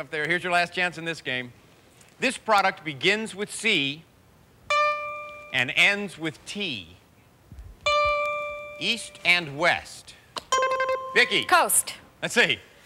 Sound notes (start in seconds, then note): 10.5 buzzer rings